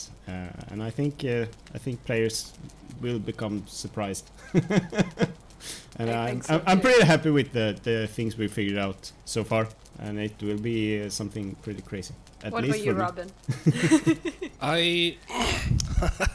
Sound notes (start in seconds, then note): 4.3 laughs